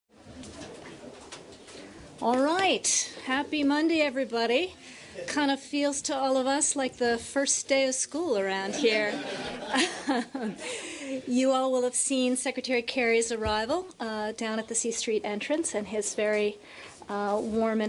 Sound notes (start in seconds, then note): 10.2 laughter